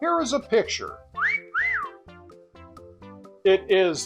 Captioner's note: wolf whistle